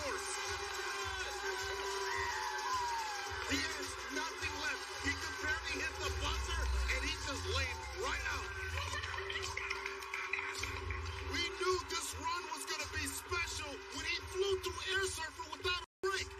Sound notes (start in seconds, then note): 0.0 upbeat music; 8.6 laughing